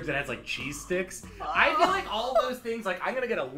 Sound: laughs

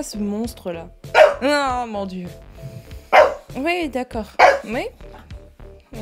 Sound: dog's talking, real loud

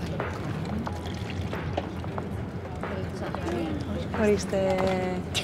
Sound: drink pouring; Vanina speaking foreign language

